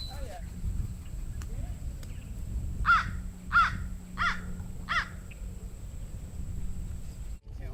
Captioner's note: crows cawing